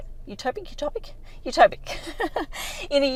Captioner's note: laughs